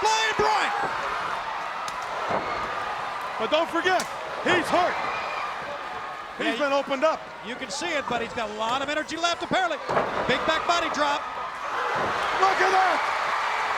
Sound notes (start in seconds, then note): 1.4 crowd cheering; 13.5 crowd roaring